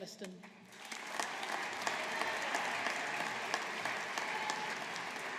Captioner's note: audience applauding